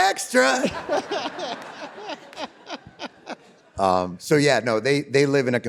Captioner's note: David and audience laughing